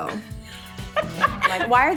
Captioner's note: laughing